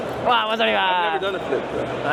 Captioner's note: speaking in foreign language